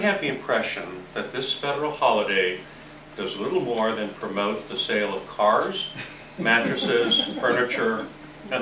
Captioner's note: laughter